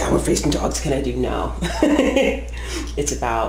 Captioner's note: laughs